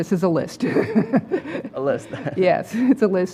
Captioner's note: laugh